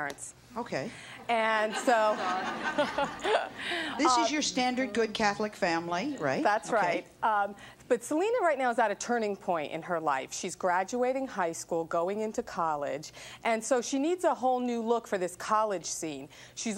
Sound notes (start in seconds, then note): 1.6 audience laughs